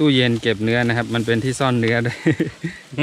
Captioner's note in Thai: หัวเราะ